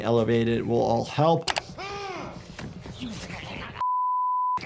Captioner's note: person in suit screams